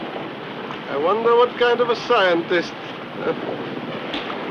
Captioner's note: chuckles